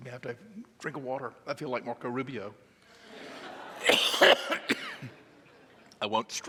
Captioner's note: audience laughing